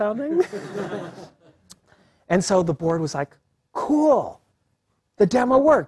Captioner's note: laugh